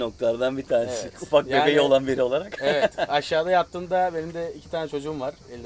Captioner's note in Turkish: gülüşmeler